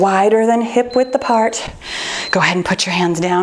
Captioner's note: timer beeps